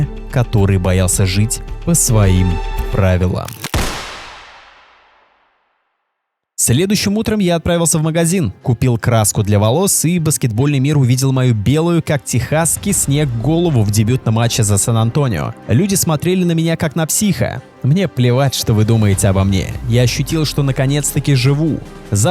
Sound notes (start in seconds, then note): 3.4 shot